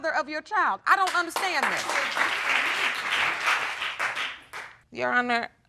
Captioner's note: audience applauds